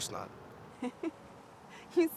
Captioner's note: laughs